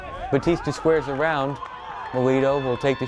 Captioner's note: bat cracks